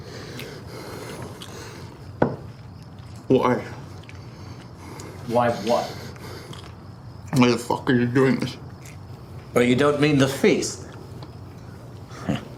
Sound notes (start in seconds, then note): 0.0 Miles pants; 12.1 Janus chuckles